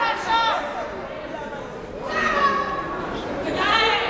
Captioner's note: yelling